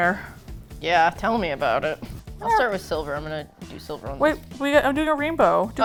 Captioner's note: jokingly